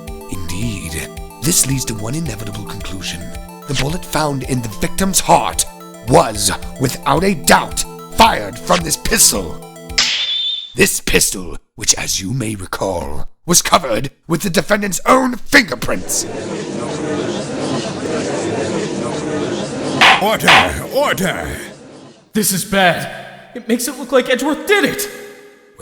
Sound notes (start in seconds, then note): 10.0 snap!; 16.2 gallery chattering